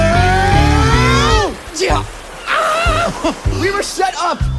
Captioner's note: rushing water; vague sounds of distress